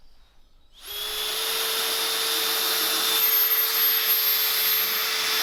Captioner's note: drilling sound